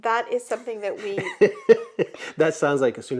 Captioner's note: laughs